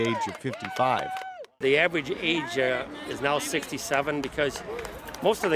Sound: cheering

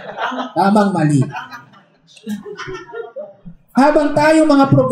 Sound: laughter

